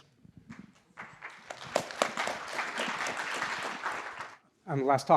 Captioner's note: applause